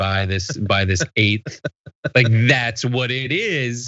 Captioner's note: laugh